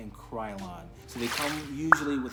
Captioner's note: swoosh pop